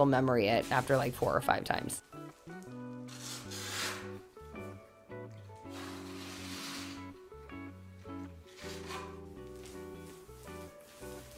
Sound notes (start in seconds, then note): 2.8 brush scraping